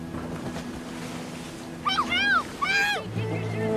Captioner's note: splash